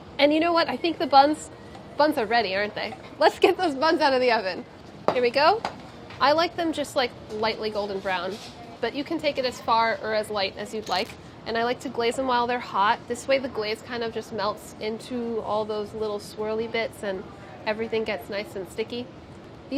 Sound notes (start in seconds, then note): none